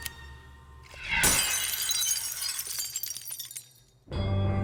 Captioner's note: gunfire blasting; glass breaking; suspenseful music